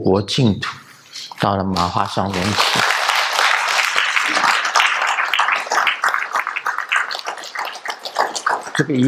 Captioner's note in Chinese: 眾鼓掌